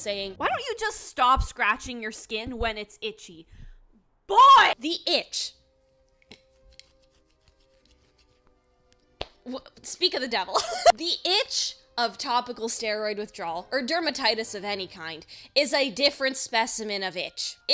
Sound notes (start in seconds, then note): 6.4 scratching; 9.0 stutters; 10.6 laughs